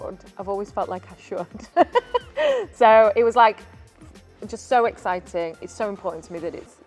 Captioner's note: laughs